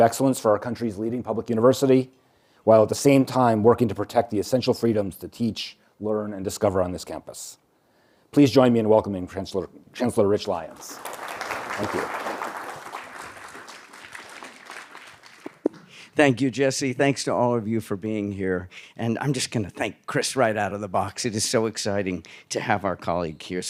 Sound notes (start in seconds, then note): 10.8 applause and cheering; 12.7 applause